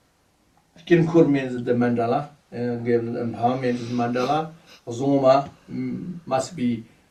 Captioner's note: tibetan